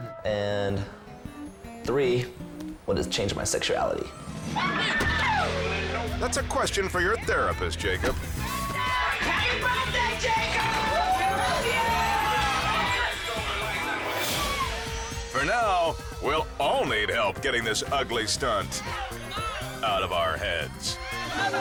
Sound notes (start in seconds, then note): 4.3 crowd screaming; 13.7 crowd cheering; 21.4 stripper music